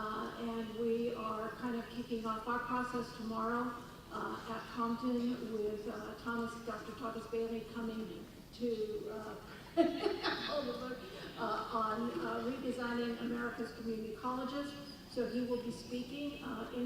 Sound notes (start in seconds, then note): 9.7 laughing